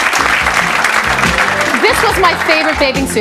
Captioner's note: audience clapping